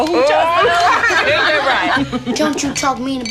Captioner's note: laughing